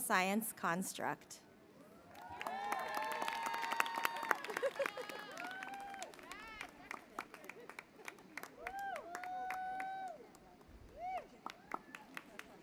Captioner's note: applause